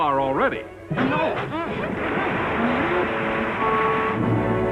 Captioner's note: water bubbling